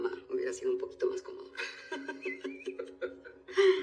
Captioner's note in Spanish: Risas